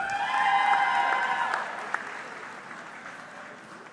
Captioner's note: audience cheering